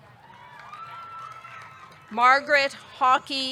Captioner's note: audience cheering; audience clapping